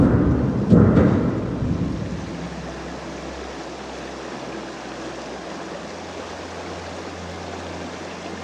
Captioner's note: echoes from cube falling and the sound of a water stream